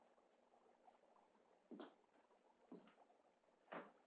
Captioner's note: liquid bubbling